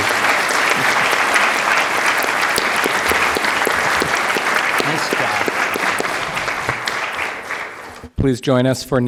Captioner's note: applause